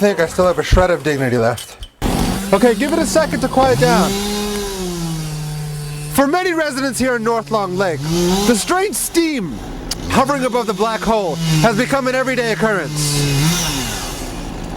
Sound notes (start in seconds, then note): 2.1 machine rumbling; 4.3 machine rumbling